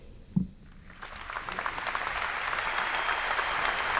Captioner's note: applause